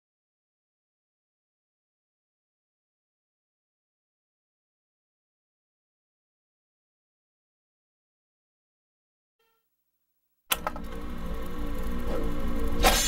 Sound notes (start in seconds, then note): 10.5 click